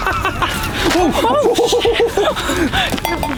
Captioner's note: laughter